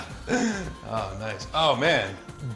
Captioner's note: laughs